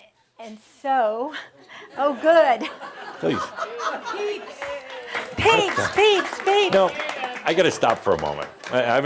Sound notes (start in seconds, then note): 4.5 some chuckles